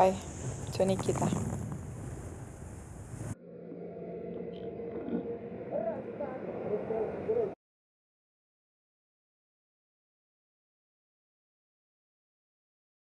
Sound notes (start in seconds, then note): 2.1 in Russian